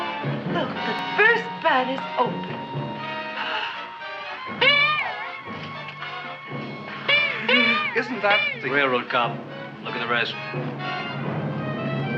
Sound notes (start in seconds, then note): 4.6 petals popping